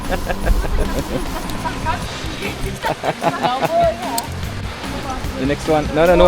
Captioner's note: laugh; speaking German